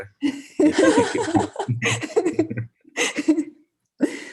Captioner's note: multiple speakers laugh